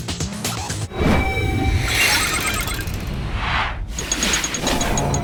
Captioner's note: logo swooshing